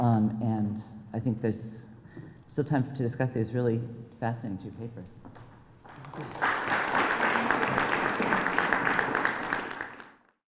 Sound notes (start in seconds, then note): 5.8 applause